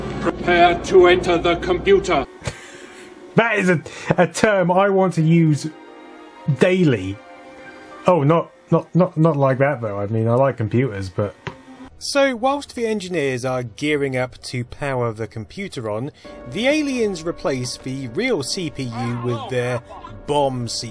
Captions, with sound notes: -Prepare to enter the computer. *sniggers* That is a term I want to use daily. Oh, not not not not like that, though. I mean, I like computers, but....... So whilst the engineers are gearing up to power the computer on, the aliens, replace the real C.P.U with their bomb.